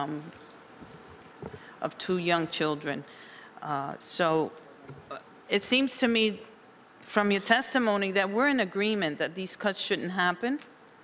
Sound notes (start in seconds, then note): none